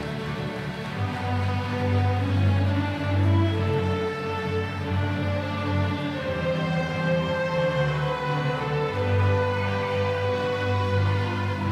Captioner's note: applause